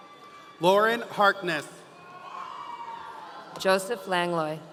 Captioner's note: audience cheering